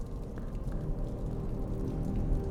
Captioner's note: flames crackling